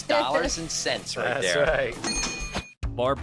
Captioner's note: dinging